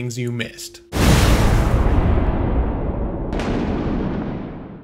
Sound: thunder crackles

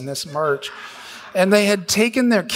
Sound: audience laughing

